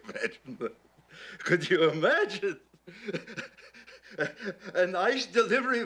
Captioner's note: laughs; continues laughing